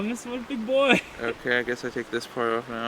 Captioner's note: laughs